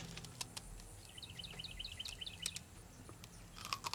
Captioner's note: birds tweeting